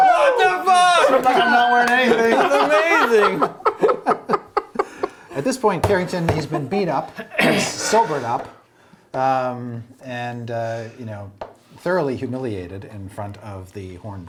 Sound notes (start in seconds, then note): 2.6 laughing